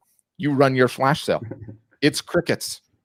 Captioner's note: laughing